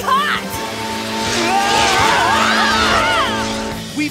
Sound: screaming

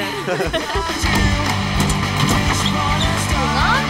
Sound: all laugh; latches clang released

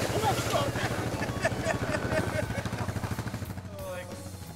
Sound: men laughing

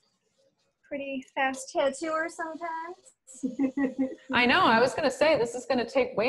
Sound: laughter

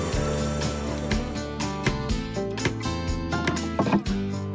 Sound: crane Whirring; hammer Tapping; thud!

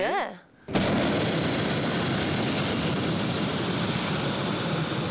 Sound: fire ignites loudly

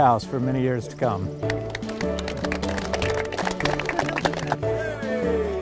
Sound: applause

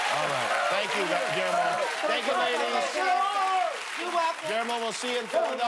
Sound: cheers and applause

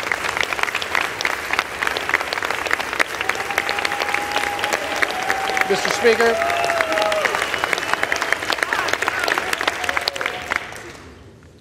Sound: applause

